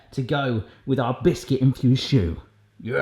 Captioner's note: none